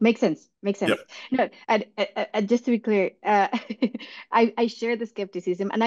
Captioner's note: laugh